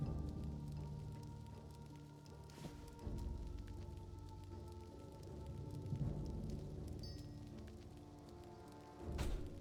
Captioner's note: footsteps